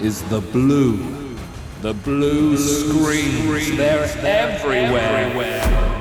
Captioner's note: echoes